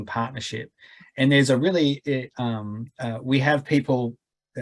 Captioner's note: stammering